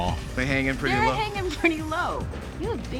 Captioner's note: laughing